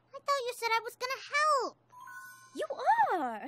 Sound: ding!

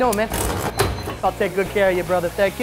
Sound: machine running

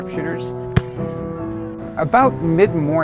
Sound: gun fires

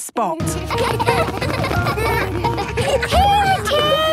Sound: laughter

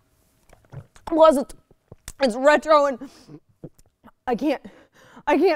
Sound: choking

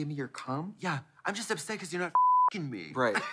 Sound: beep

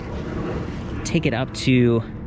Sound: car engine roaring

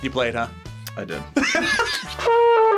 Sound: React laughs; trumpet music

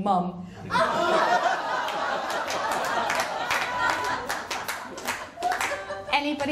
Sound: laughter & applause

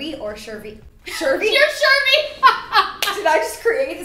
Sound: laughing

